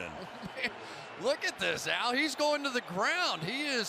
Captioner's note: laughs